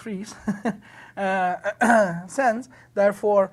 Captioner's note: chuckles